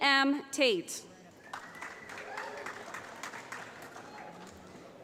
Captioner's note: applause